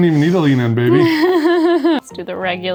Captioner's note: laughing